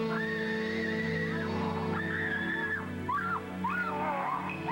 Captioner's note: woman screaming